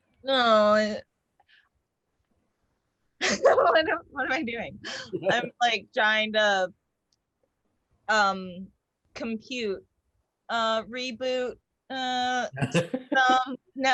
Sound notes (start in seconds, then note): 4.8 laughs; 12.6 laugh